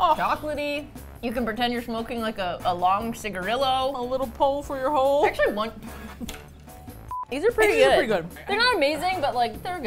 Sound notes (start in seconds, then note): 5.8 laughs